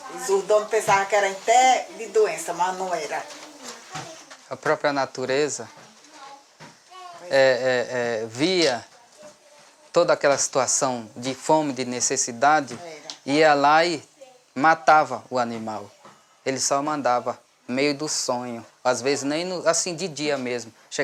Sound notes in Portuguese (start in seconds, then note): 5.9 Vozes de crianças no ambiente